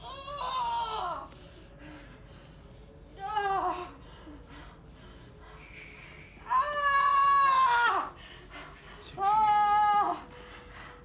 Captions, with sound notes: - Shh. It's okay. - ( screaming )